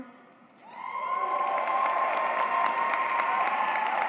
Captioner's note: applause